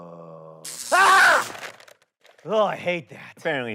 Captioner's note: John screams